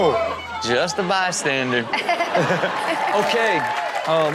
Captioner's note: Chanel laughs